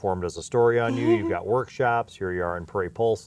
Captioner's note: laughs